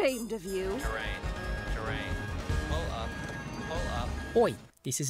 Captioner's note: robot voice